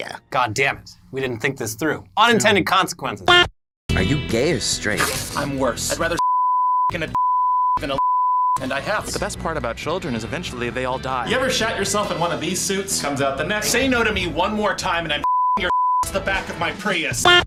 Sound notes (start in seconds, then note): 4.9 disgusted grunt